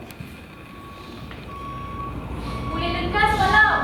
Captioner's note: SFX: Reversing truck